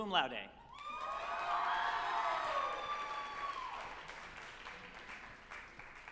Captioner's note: group applauding and cheering